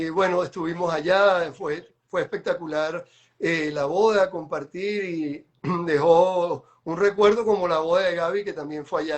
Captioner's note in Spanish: carraspeo